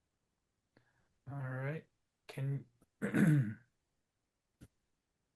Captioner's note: coughs